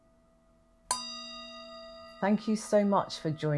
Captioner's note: conclusion Meditation Bell Sounds: 2 of 3